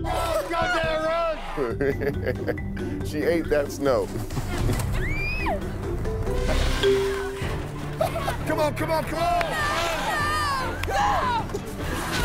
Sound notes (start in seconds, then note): 0.9 laughs; 5.0 woman screams; 7.2 dramatic music; 10.1 shouting